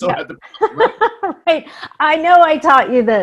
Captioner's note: laughing